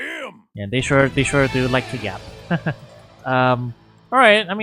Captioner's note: laughs